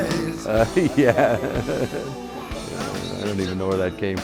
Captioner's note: laughing